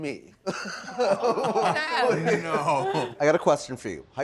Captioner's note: all laughing